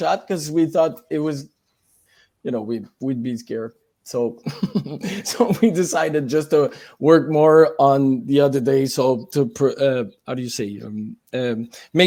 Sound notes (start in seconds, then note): 4.4 laughs